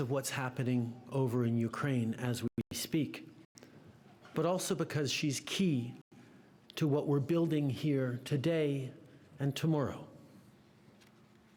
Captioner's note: speaking French